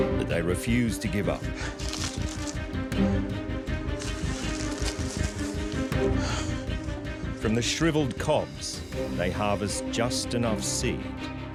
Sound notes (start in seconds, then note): 5.9 gasps